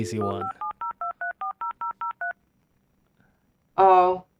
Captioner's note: phone dialing